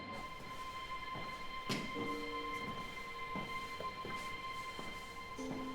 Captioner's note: footsteps plodding